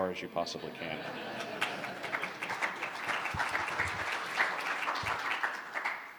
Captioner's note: laughter; clapping